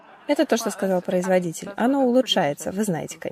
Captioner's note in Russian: Смех